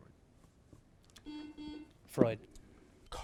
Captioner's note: buzzer buzzes